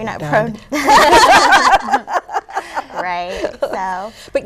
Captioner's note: laughter